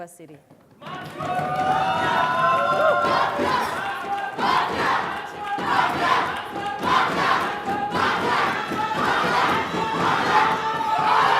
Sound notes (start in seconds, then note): 1.1 audience screaming and applauding; 5.8 audience chanting